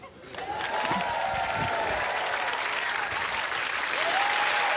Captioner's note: cheering and applause